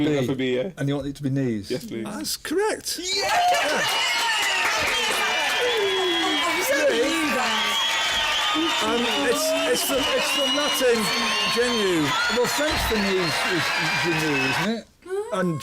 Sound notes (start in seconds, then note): 5.3 clapping; 6.2 cheers